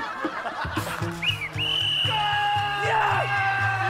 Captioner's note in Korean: 호루라기 소리